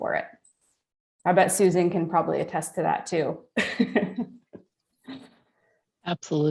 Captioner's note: chuckles